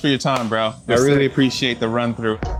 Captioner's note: hands clap